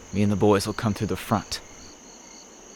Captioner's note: crickets chirp